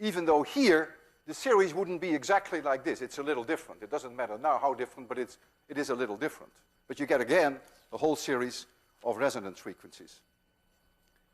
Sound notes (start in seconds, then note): none